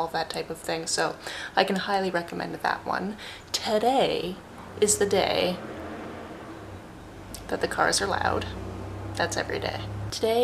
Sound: cars drive loudly

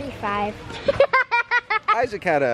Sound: laughs

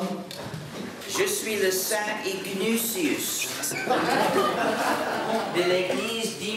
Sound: speaking in a foreign language

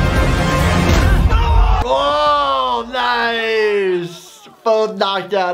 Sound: intense music; loud groaning

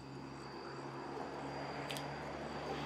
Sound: car driving

